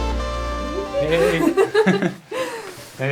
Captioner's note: laughs